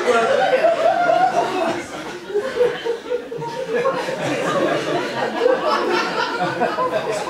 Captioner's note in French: rires public